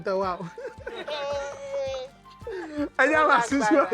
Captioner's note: laughs